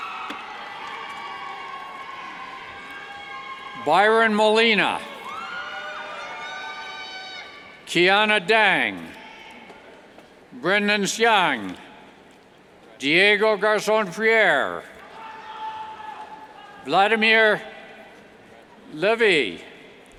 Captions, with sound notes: Byron Molina, (cheers) Quiana Dang, Brendon Siang, Diego Garzon Prierre, (indistinct yells) Vladimir Leviy, Nicholas Brakatselos,